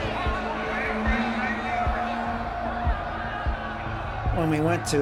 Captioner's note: crowd clamoring